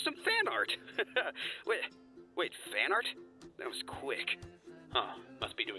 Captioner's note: laughs